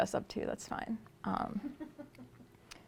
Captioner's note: laughter